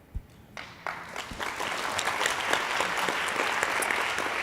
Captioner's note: audience applauding